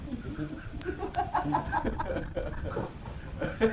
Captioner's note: laughing